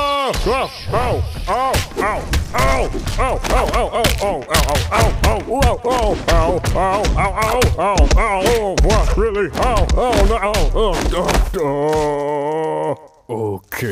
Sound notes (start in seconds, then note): 0.2 various pain noises; 9.4 even more pain noises